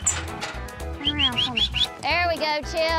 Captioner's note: whistling